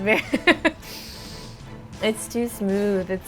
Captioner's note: laughing